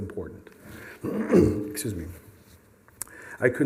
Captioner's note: clears throat